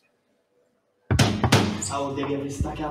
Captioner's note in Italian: knock on the door